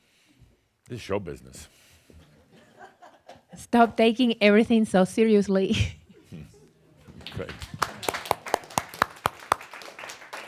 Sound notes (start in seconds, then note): 2.0 a few chuckles; 7.2 she chuckles and applause